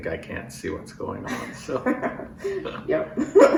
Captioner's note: laughter